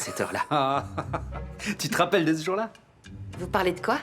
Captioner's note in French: rires